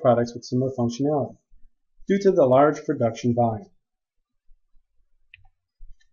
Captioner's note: click